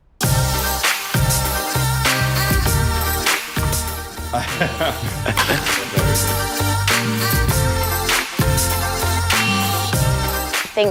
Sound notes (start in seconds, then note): 4.3 laughter